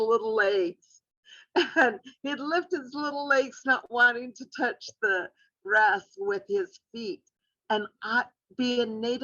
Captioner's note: laugher